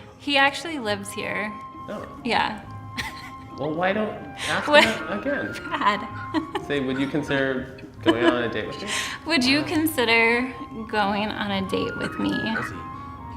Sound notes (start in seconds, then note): 4.4 laughing